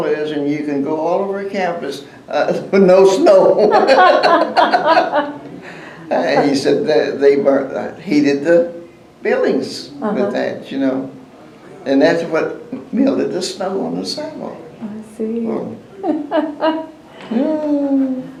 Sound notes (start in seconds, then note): 3.6 laughter